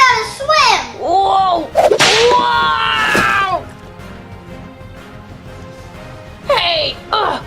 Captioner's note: splashing